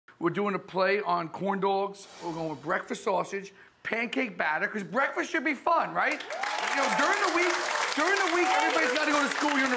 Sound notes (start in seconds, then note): 6.1 audience cheers